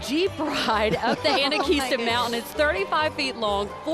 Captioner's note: laughing